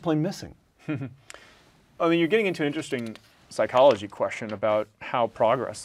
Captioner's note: laugh